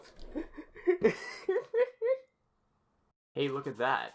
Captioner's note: laughing